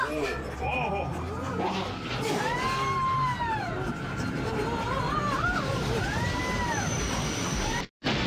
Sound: rest of Family members grunt and scream in panic as they flee

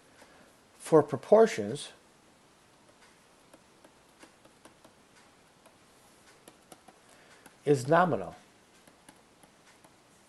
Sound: clicking; background clicking

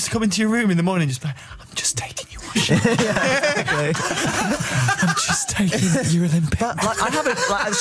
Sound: wispers

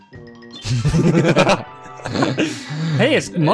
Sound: both laughing

